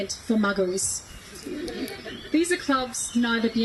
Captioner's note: guests laugh